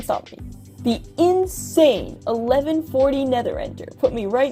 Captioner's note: sarcasm